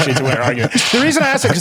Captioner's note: laughs